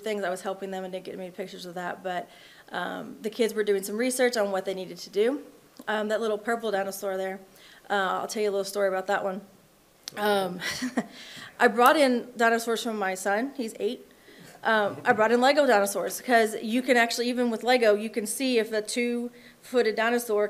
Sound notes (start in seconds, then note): 10.5 chuckles; 14.7 attendees chuckling